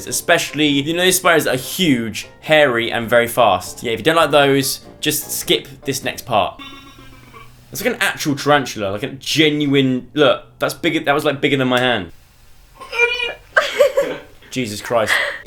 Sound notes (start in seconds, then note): 12.8 squeals; 12.8 laughs